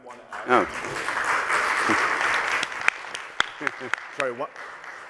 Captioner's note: applause